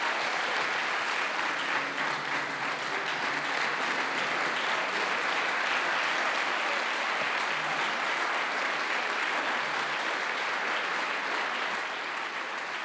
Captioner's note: applause